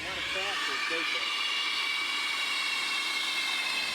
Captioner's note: sound of compressed air